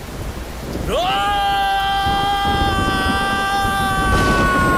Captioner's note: Screams